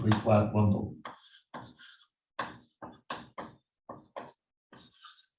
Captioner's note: chalkboard tapping loudly